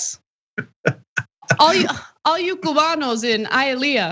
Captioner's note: laugh